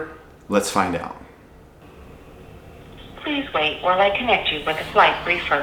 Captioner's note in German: Automatisierte Stimme am Telefon